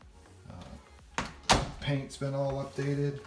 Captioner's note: door slams